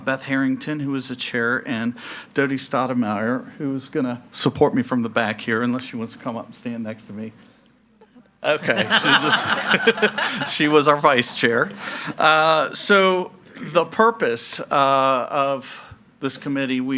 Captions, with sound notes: Beth Harrington, who was the Chair, and Dody Stottlemeyer, who was gonna support me from the back here, unless she wants to come up and stand next to me. Okay, she just ... (Participants laughing) She was our Vice Chair. So the purpose of this committee,